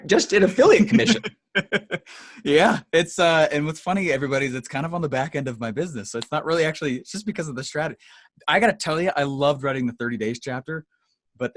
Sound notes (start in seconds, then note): 0.3 laughs